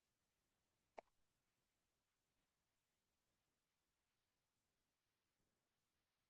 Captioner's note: pause